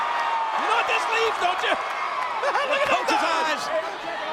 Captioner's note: chuckles